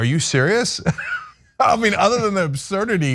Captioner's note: laugh